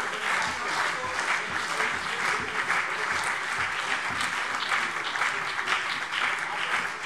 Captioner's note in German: Beifall BÜNDNIS 90/DIE GRÜNEN und CDU - Zurufe SPD